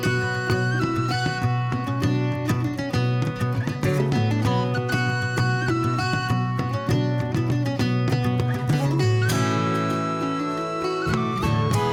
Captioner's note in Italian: Applauso